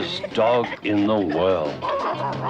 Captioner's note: Arrow barking